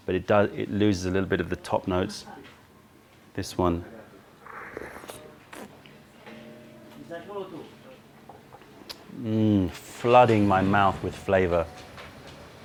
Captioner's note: sips tea